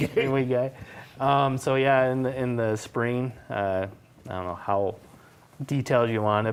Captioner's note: laughter